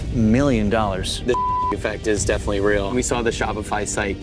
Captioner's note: beep